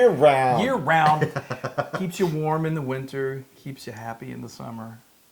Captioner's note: laugh